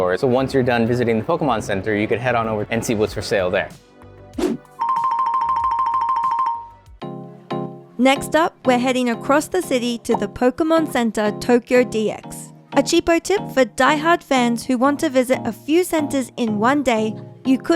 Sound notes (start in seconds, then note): 4.3 air swooshes; 5.3 playful music; 7.5 light music